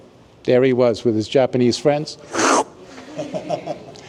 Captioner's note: slurping sound